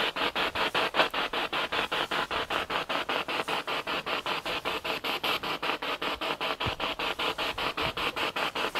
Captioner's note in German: Noise of the spiritbox in the background